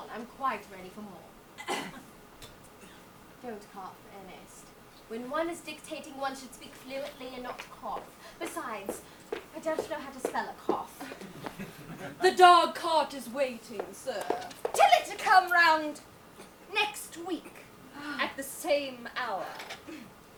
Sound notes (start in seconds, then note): 11.0 audience laughs